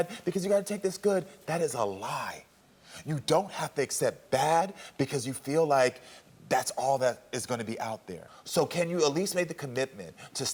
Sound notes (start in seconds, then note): none